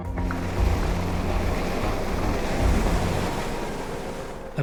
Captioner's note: intense music; water whooshing